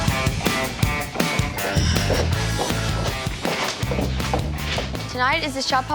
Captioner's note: sighs